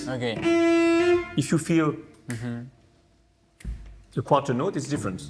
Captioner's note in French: claquement de doigts